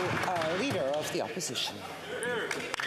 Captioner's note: some Applause